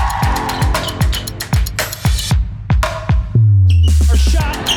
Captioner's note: crowd cheering; court squeaking